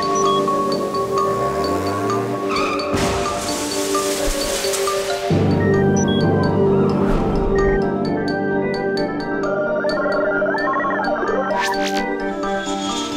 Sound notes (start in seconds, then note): 2.7 crashing; 3.1 brakes screeching